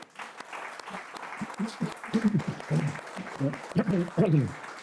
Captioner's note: all clapping